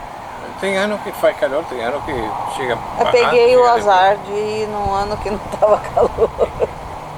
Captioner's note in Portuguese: risos